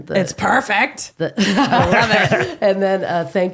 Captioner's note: laughing